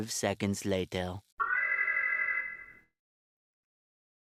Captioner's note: alarm